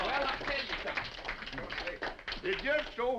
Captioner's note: all applauding